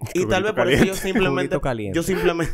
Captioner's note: laughs